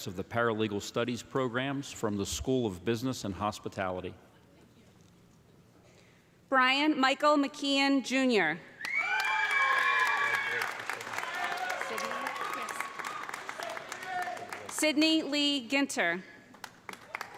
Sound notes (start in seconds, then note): 8.8 audience cheering; 8.9 audience applauding